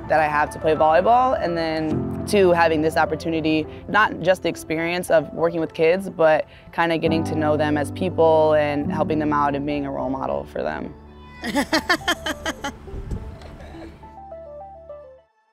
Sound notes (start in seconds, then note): 11.4 laughing